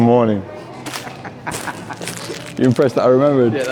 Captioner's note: laughs